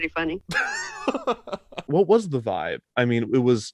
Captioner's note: laughs